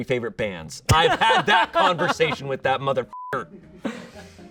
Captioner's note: beep